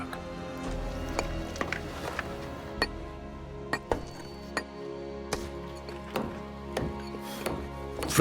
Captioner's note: chisel chinks against stone